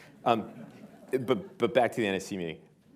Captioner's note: laughter